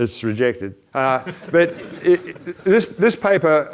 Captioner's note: audience laughs